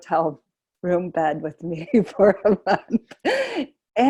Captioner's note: chuckling